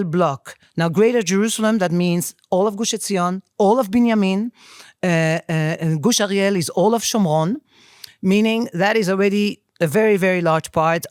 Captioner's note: speaking in foreign language